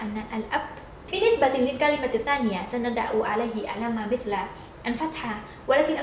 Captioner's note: in Arabic